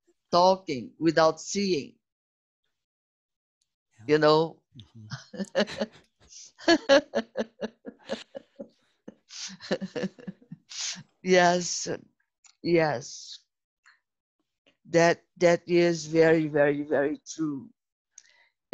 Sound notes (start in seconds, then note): 6.6 risos